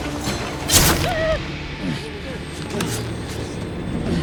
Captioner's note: Lucia gasps